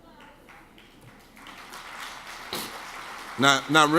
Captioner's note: audience claps